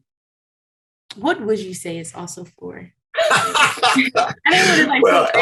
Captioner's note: laughter